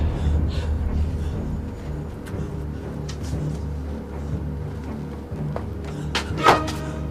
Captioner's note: eerie music; Angelica panting